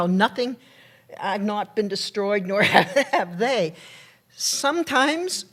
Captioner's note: laughs